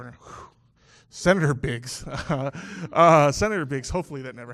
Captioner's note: laughs